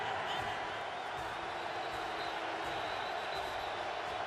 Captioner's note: cheering